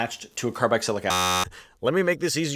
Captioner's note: buzzer buzzes